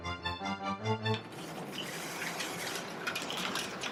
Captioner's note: shutter opening